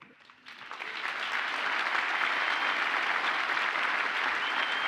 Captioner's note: audience applauds